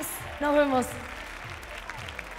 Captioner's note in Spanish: Aplausos